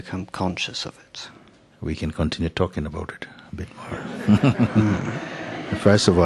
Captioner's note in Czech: Smích